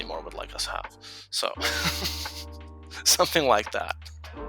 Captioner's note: laughs